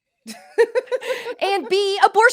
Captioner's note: both laugh